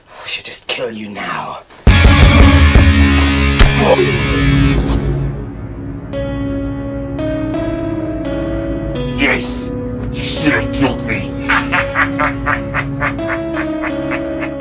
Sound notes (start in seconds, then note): 1.9 intense music; 3.5 neck snaps; 11.3 laughs